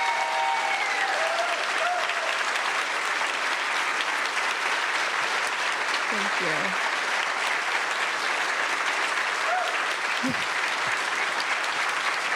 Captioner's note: cheering/Applause